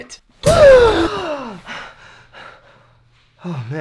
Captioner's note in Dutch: krankzinnige ademhaling; snakt naar adem